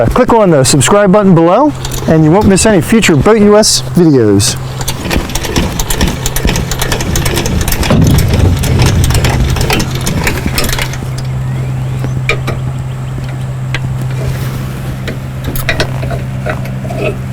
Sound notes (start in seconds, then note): 10.3 handle cranking